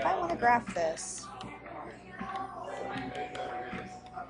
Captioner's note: stylus taps